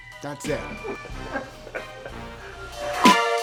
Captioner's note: laughs; upbeat music